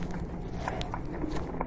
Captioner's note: creaking